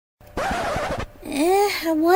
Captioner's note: record scratch